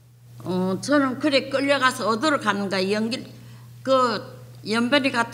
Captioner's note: speaking foreign language